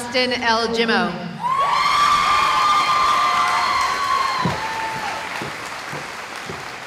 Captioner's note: cheering